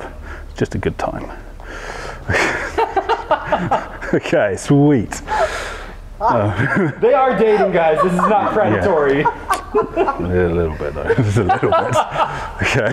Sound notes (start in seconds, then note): 2.2 laughing